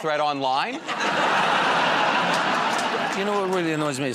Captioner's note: laughter